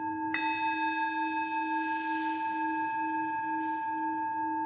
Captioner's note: sound of a bell struck